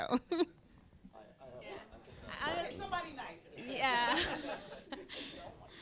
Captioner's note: laughter